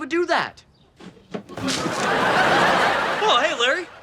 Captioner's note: audience laughing